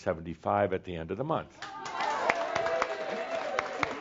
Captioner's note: audience applause